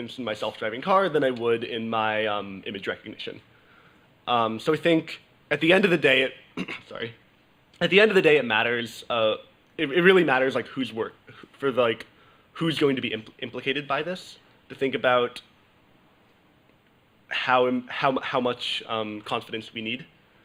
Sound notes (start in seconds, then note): 6.5 coughs